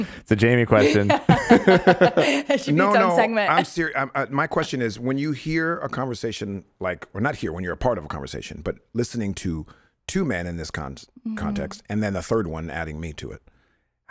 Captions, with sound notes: - It's a Jamey question. (laugher) - No, no, I'm serious. My question is, when you hear a conversation... Like we're not here when you're a part of a conversation, but listening to two men in this context, and then the third one adding me to it.